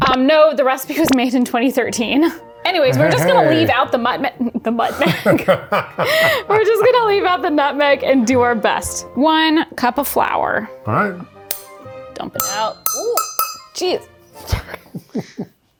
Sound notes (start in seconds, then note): 4.9 laughing; 12.4 measuring spoon clanking